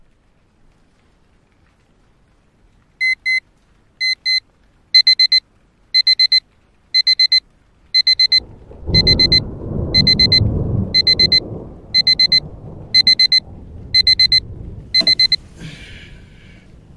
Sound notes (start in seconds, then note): 2.4 alarm Beeping; 9.2 thunderstorm and Lightning